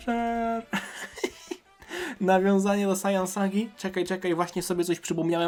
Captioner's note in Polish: śmiech